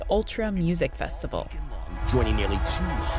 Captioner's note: soundbite of archived recording